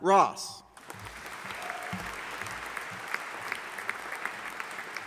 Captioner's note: audience applauding